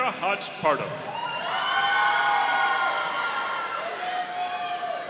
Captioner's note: audience cheering